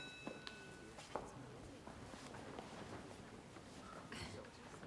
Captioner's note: students murmur quietly